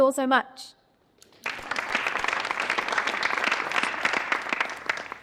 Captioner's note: all applauding